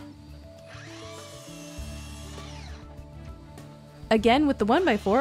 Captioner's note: machine whirring